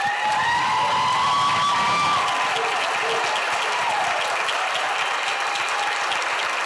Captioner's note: audience applauds; audience cheers